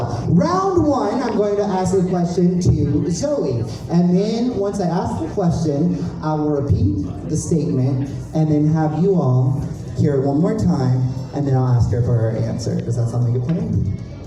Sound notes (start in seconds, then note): none